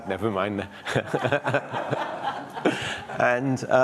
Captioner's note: audience laughs